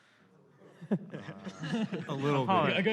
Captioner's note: laughter